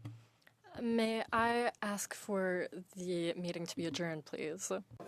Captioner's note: speaking French